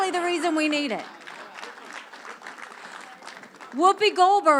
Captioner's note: crowd applause